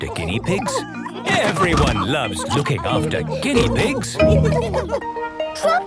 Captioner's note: laughter